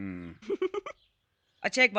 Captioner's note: chuckling